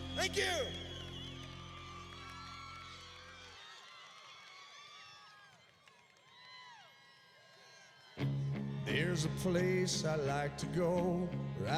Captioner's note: cheers and applause